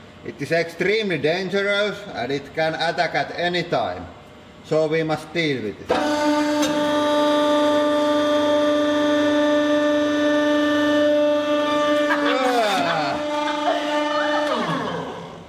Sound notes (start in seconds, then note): 12.0 laughing; 12.0 laughs